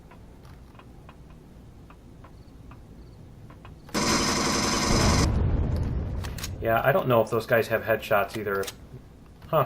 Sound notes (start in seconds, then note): 0.0 reloading; 0.8 explosion; 0.8 footsteps; 0.8 pulse rifle; 6.1 reloading